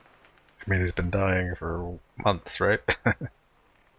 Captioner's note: chuckling